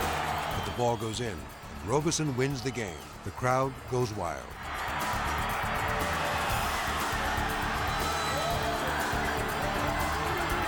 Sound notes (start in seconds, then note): 0.0 crowd cheering; 4.3 upbeat music; 4.4 crowd cheering